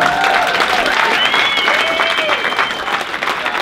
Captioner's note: applause